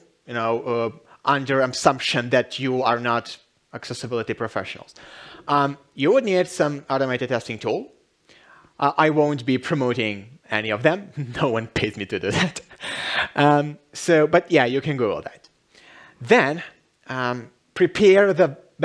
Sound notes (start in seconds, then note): 12.4 chuckle